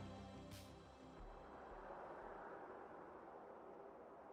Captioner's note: wind gusting